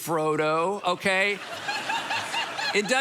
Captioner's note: congregation laughing